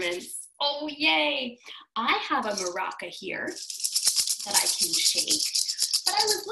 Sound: rattling

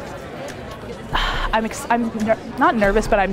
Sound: sighs

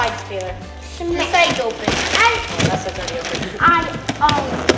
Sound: overlapping chatter

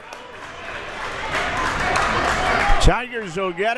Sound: crowd members clapping

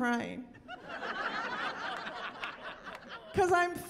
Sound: laughing

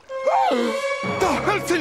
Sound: gasps

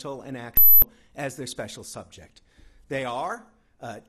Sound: piercing high pitch tone

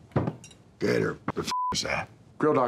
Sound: beeps

